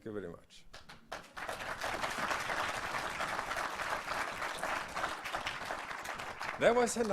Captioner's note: applause